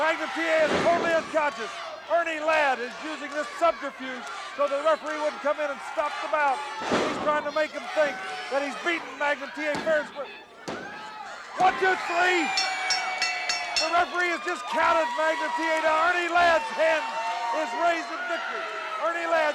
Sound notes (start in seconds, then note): 12.4 bell dinging